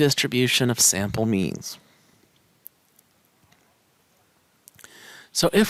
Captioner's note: no Speech Detected